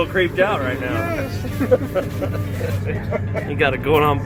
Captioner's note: both chuckle